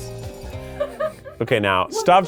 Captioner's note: person laughing